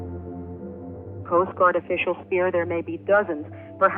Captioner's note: archival news audio